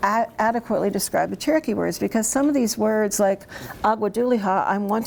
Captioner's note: speaks in Cherokee